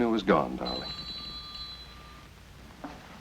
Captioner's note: doorbell ringing